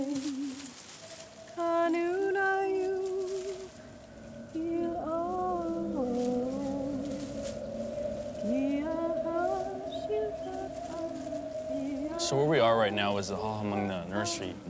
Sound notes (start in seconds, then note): 0.0 singing; 3.9 wind blowing